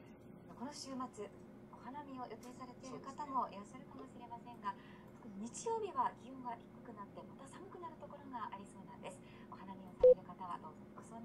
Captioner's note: phone powers down